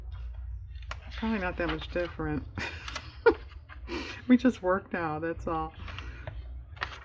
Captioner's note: laughs